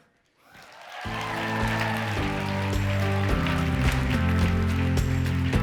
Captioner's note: audience cheering and applauding